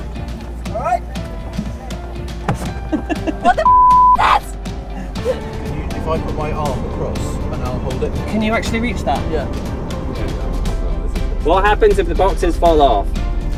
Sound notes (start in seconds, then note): 2.8 laughing